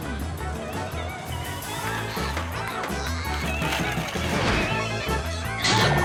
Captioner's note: kid squealing and laughing